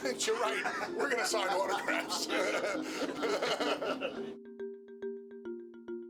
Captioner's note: laugh